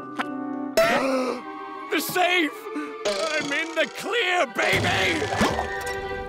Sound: gasping

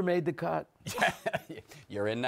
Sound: chuckles

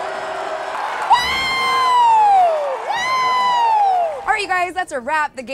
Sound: cheering; fans cheering

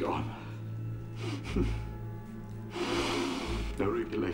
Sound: chuckles

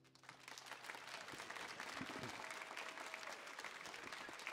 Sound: audience clapping

